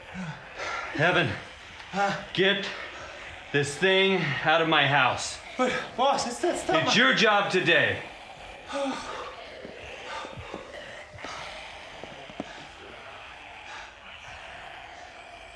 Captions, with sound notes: Evan, get this thing out of my house. But boss, it's...that's not my... It's your job today. [Zombies growling outside.]